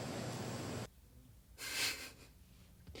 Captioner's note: laughing